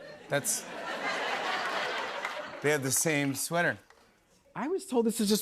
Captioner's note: laughter